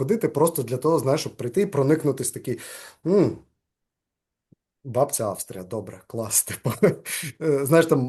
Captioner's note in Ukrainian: сміється